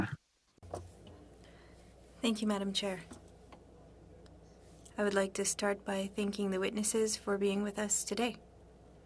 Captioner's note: speaking french